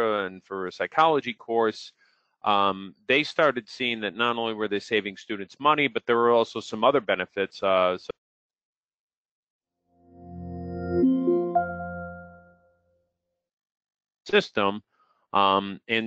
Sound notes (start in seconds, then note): 10.0 startup sound